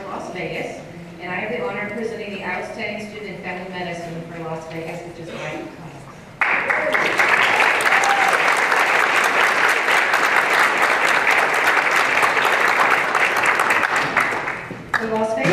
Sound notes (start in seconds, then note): 6.4 applause and cheering